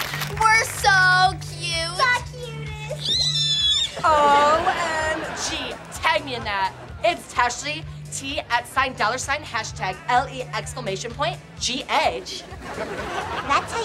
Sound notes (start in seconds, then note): 0.0 applause; 3.0 squealing